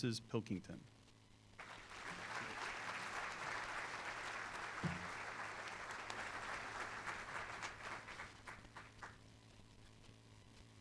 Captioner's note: applause